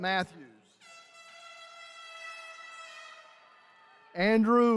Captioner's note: horn blaring